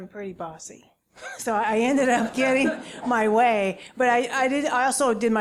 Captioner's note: laugh